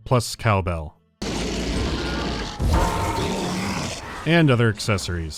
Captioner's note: ding-di-dong